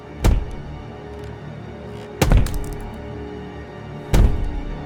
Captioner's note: pounding on Door